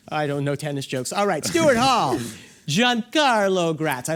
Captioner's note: laughs